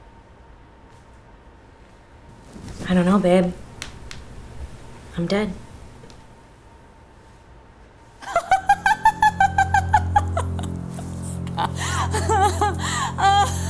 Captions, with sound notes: I don't know, babe. I'm dead. [LAUGHING]